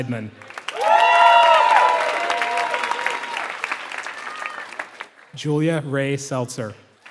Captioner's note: applause; applause